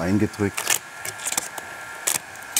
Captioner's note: hair dryer noises